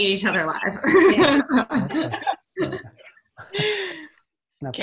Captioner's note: all laughing